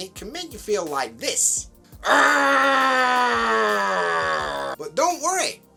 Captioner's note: angry sounds